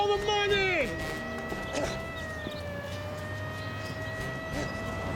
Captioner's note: sirens blaring